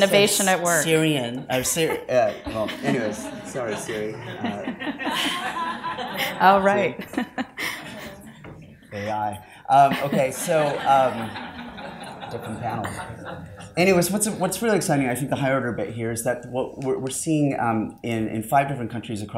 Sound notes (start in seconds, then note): 0.0 crowd laughs; 4.1 crowd laughs